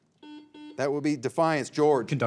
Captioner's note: signal beeps